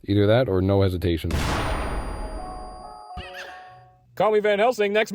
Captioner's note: blam